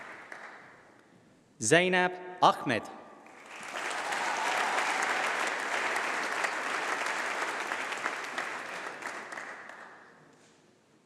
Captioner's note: applause